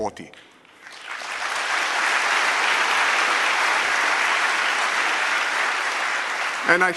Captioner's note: applause